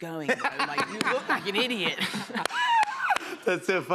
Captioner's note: laughter